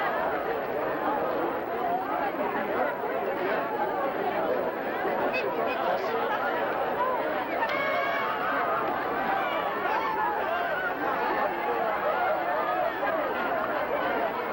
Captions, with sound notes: Did you see Robbie? (cheering)